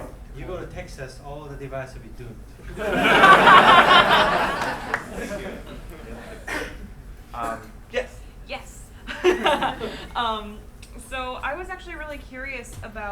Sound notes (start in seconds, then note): 2.7 laughing; 9.0 laughing